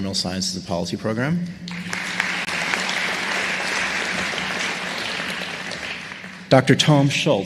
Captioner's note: applause